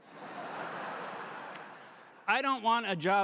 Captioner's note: audience laughing